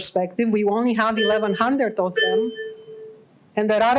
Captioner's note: chime sounds in background